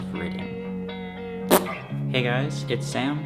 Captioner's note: blows raspberry